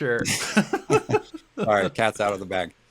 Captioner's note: both laughing